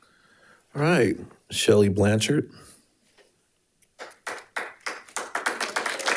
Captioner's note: audience applauding